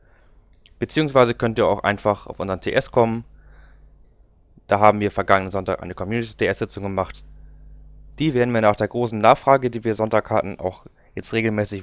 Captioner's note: in german